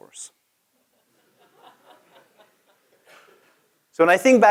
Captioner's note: laugh